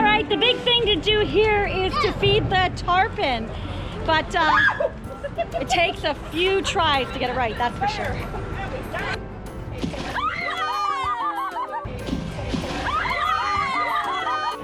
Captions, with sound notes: - All right, the big thing to do here is to feed the tarpon. But it takes a few tries to get it right, that's for sure. (splashing) (shrieking)